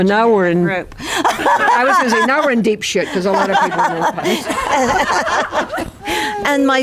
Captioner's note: laughter